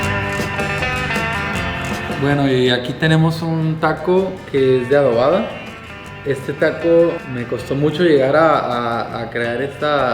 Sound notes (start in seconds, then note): 0.5 western music; 2.7 speaking Spanish